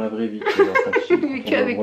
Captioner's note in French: rires